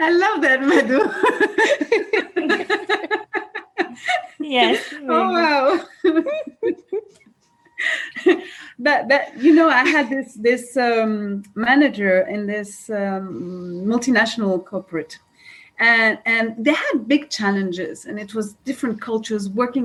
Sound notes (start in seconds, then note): 0.6 laughing